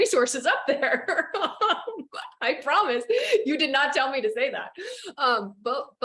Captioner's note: laughs